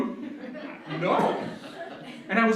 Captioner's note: laughter